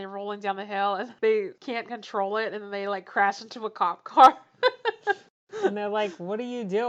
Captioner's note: laughs